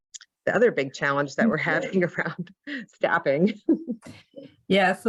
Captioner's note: chuckles